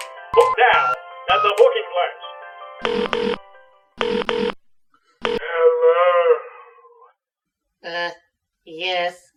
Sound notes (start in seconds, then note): 2.8 phone ringing; 2.8 Cataliss dialing phone number